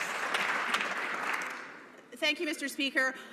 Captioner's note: some Applause